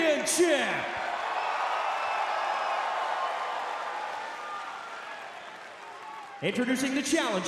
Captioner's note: crowd cheering